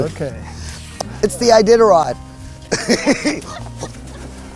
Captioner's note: laughs